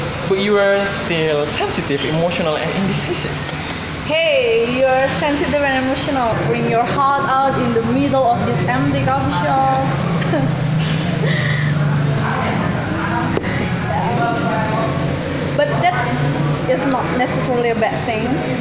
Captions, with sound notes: but you are still sensitive, emotional and indecisive hey, you're sensitive and emotional pouring your heart out in the middle of this empty coffee shop [GIGGLE] but that is not necessarily a bad thing